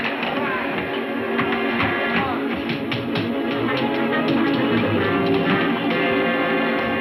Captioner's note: suspenseful music; footsteps thudding